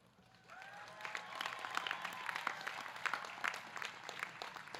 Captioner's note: audience clapping